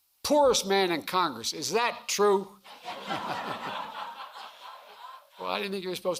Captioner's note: laughter